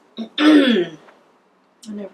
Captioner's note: groans